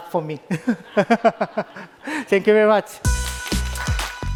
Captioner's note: laughs